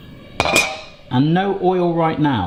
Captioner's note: pan clanging